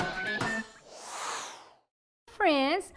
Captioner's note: air whooshing